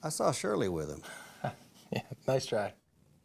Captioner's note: laughs